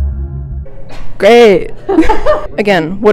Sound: laughter

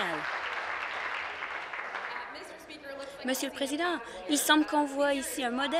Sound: some Applause

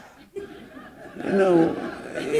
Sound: laughter

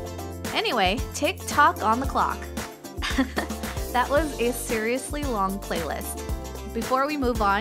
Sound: chuckle

